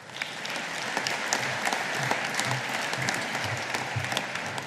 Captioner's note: audience applauding